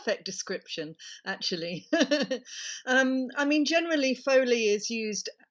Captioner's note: laughter